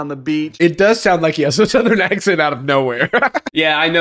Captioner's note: laughs